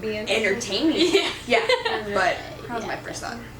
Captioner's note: laughing